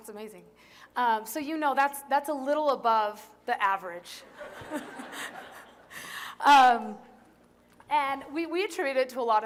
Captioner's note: laughter